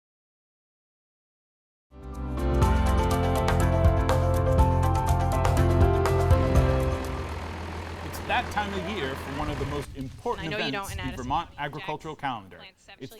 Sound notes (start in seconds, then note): 3.0 upbeat music; 7.2 tractor humming